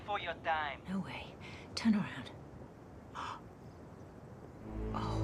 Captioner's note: gasps